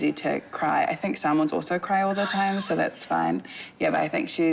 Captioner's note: chuckles